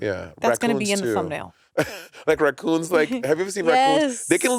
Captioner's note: Monét chuckling